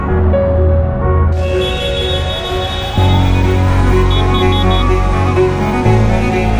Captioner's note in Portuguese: som de trânsito congestionado